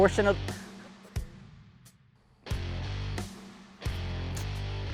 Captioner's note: laughing